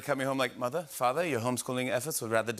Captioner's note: English accent